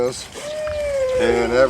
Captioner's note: owl hooting